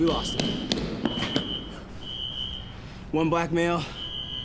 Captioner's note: footsteps thudding; alarm screeching